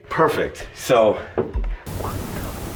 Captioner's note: object thumps